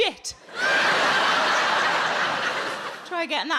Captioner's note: audience laughing